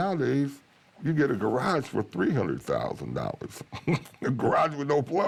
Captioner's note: chuckles